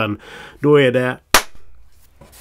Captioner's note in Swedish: smack